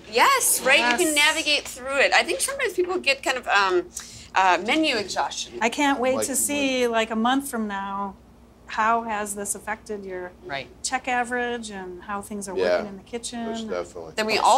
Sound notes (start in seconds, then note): none